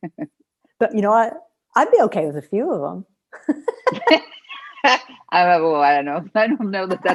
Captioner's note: laughter